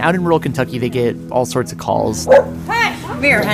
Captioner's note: dog barks